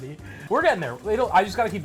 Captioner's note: whisk rustling